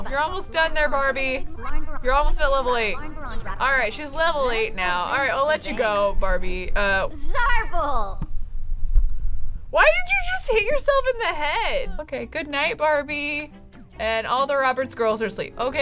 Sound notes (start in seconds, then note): 7.4 speaks foreign language